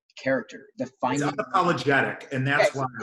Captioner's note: murmurs